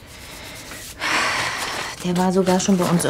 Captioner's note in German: Seufzen